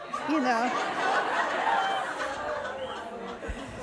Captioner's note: audience laughs